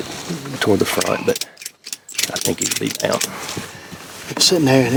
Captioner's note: ratchet clicking